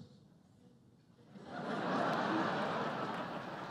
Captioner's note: laughter